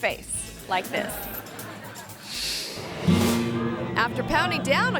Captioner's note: audience laughing